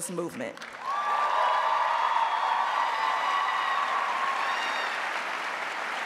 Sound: audience cheering and applauding

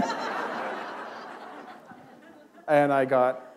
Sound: laughter

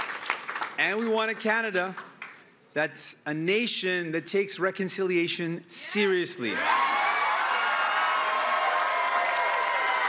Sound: cheering and Applause

